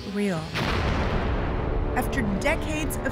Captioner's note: explosion roars